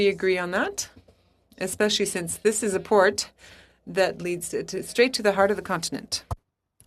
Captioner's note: speaking French